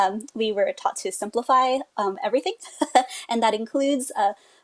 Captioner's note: laughs